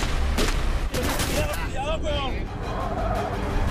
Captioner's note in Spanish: Disparos